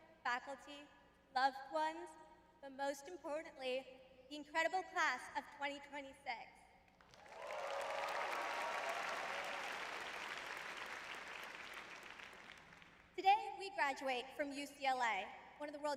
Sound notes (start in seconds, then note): 7.1 audience cheering; 12.4 audience applauding